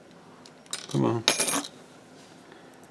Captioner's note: metal clinks